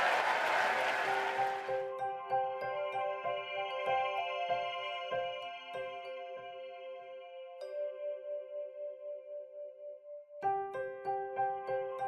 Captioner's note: applause